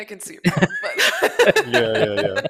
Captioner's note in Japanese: 笑い